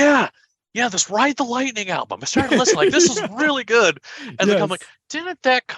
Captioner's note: laughter